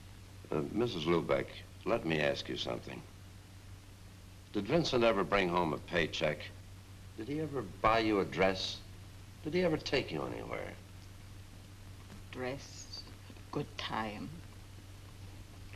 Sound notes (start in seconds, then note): none